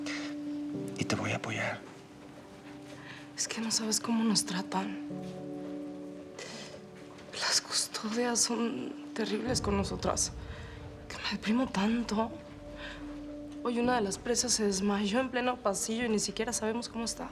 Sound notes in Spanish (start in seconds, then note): none